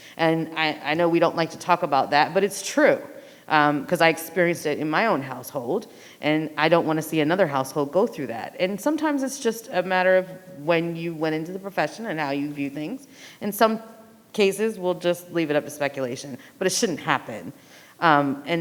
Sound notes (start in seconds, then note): none